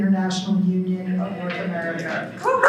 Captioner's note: applause